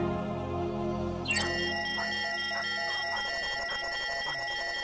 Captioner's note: beeping